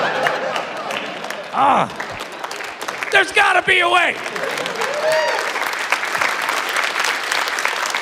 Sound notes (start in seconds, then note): 4.3 applause, cheering